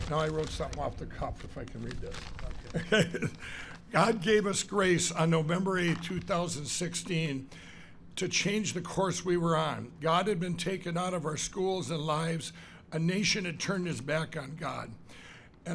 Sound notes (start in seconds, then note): 2.6 laughs